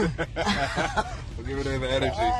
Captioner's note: laughing